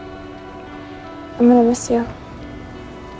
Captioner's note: voiceover